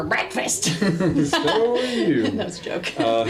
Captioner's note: laughing